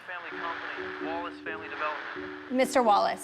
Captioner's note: static on phone